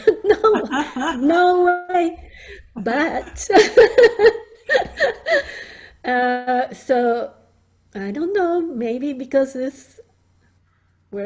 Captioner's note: laughs